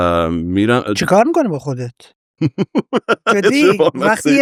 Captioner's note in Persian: خنده